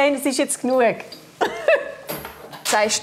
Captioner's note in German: lacht